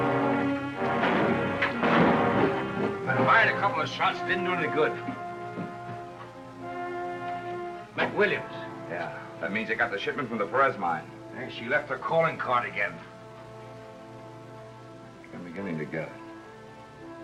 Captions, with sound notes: [GUNSHOTS] I fired a couple of shots. It didn't do any good. McWilliams. Yeah, that means I got the shipment from the Perez mine. And she left her calling card again. I'm beginning to get it.